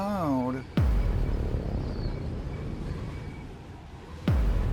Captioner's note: cinematic boom